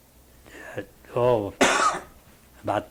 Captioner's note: coughs